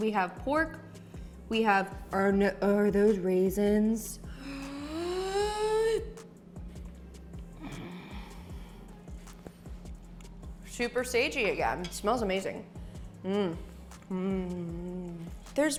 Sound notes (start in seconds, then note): 4.3 gasps; 7.6 exhales deeply